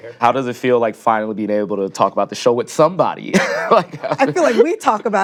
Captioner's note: laughs